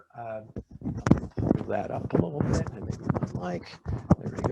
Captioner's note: speaking faintly